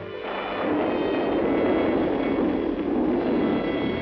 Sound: thunder clapping

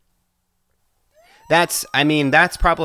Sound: sirens

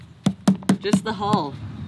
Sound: fingers tapping

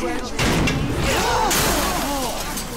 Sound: shouting

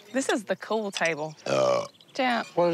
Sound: belch

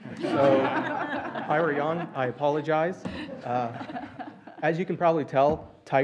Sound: laughter

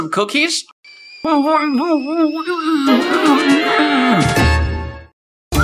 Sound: muffled Rage

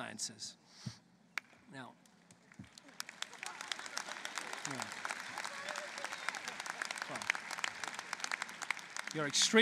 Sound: applause

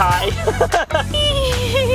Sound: chuckles

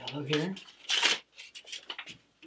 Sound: ripping paper

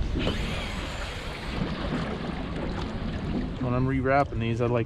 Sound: rod whipping; reel spinning

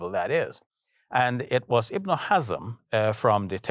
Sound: speaking foreign language

